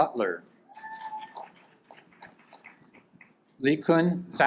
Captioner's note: audience applaud